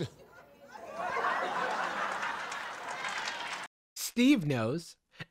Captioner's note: audience laughing